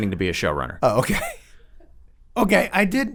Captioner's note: laughs